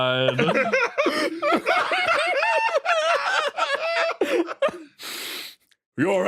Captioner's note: laughs